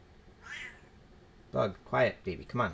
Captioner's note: cat meows